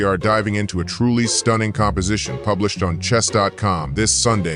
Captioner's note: none